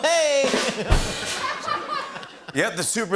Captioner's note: laughter; rimshot